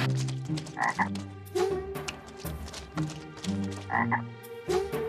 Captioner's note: croaks